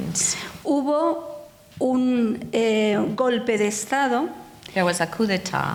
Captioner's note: speaking in foreign language